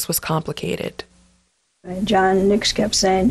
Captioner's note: soundbite of archived recording